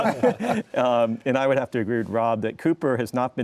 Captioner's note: laughter